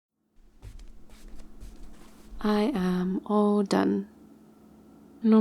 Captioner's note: shuffly footsteps